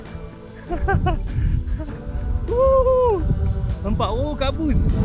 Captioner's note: laugh